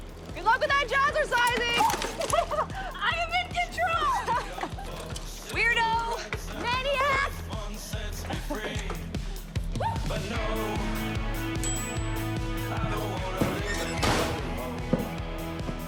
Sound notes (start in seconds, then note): 1.8 laughs; 4.0 Jodi laughs; 11.1 oven timer dings